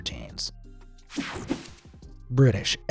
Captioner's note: swoshing